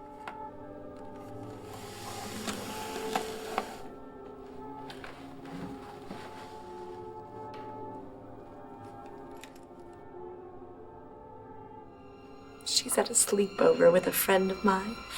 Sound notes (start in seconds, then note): 0.9 purse contents shuffling